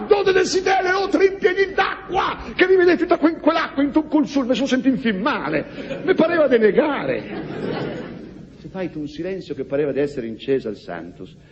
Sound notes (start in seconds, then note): 7.0 laughs